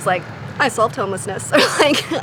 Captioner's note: laughs